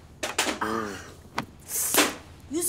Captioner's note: Gasps